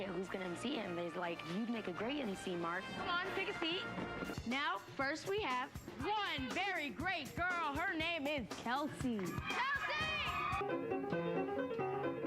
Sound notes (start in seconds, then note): 9.2 cheers; 10.6 piano playing